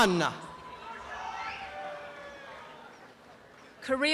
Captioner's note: applause and cheering